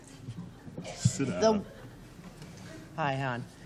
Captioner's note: booing